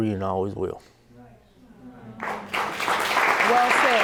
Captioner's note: audience applauding